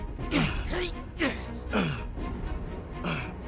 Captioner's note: gasping